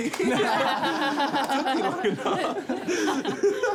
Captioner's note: roars of laughter